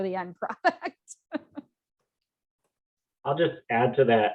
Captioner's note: laughs